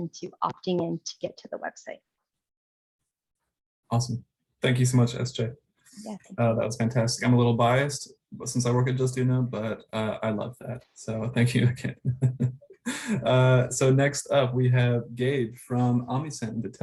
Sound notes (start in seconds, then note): 12.8 laughs